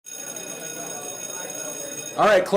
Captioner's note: school bell ringing